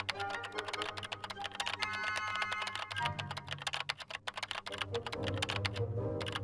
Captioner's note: keyboard clicking; dramatic music continues